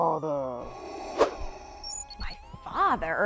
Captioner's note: darth vader inhale